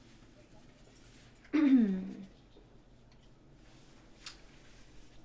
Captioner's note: Gabrielle clears throat